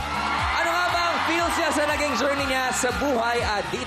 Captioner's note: crowd cheering